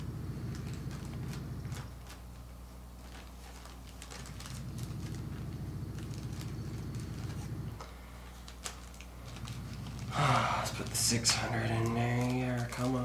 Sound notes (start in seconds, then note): 9.3 sighs